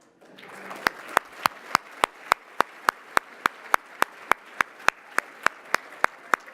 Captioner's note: applause